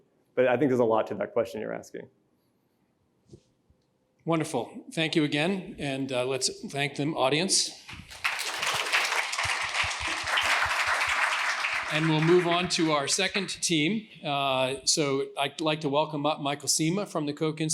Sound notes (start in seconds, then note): 7.9 applause